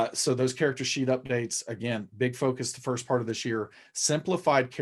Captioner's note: none